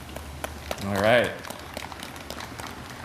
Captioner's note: applause